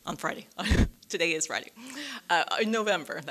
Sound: chuckles

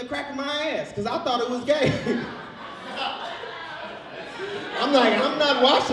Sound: laughs

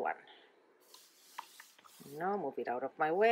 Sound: swishing

